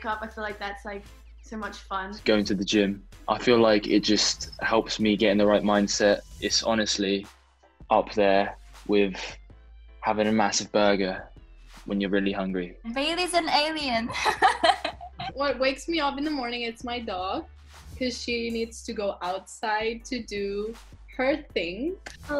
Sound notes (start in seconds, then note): 14.0 laughs